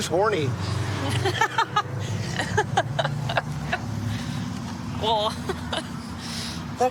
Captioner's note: laughing